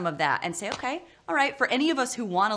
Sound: slaps

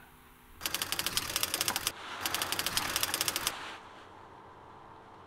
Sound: typewriter clicking

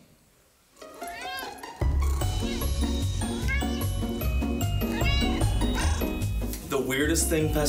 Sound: cat meow sounds

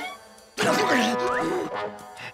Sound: groaning

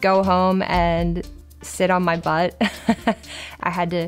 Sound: laughs

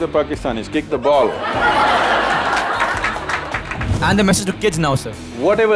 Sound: laughter

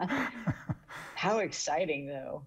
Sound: everybody laughing

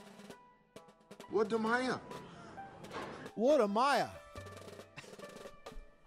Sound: speaks in foreign language

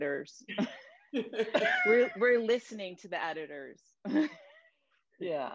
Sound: laughter

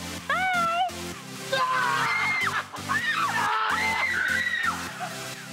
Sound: screaming

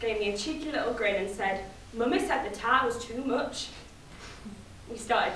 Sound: Manchester accent

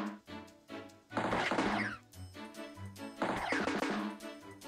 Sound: clap

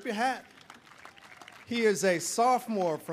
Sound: audience applauding

